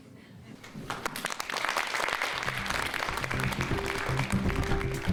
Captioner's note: audience applauds; energetic music